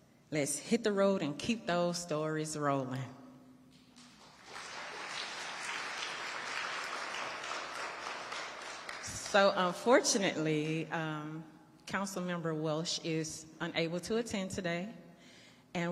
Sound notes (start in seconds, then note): 4.0 audience applauding